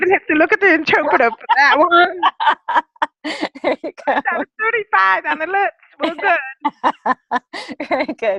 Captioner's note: laughter